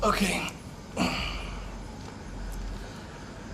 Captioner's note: stretching groans